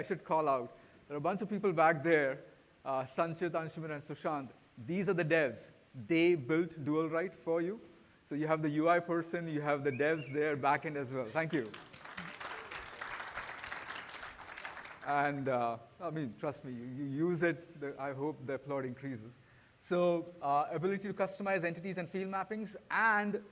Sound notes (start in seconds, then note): 14.5 applause